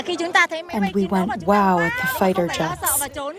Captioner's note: through translator